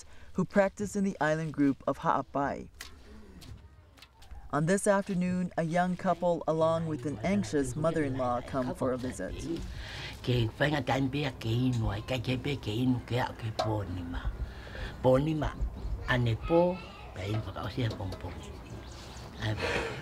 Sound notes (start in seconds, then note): 9.3 foreign Language